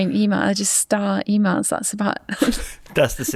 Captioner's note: chuckles